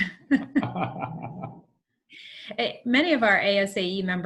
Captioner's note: laughing